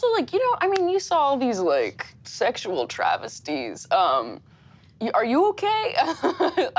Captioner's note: laughs